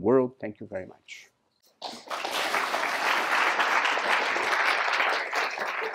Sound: applause

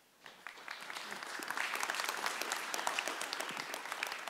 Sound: audience applause

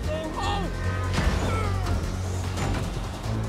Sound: Miguel grunts

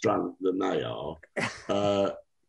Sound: chuckles

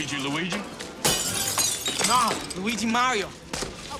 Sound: glass shattering

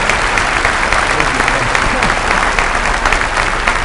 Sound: applause

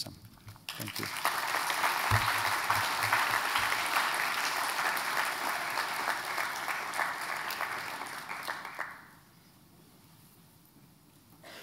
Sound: applause

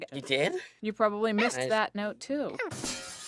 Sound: crash

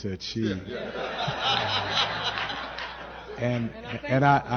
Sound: laughter

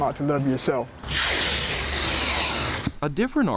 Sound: tape roars

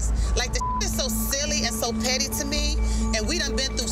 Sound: beep

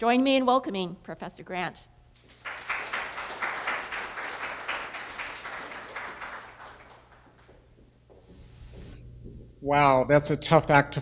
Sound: applause

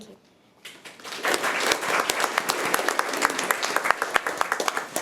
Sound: committee applauding

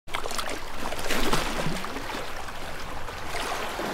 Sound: lapping waves

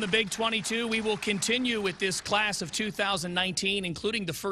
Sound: applause

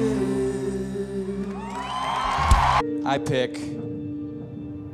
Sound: cheers and applause

